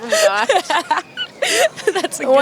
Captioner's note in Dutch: Gelach